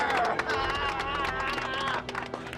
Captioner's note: applause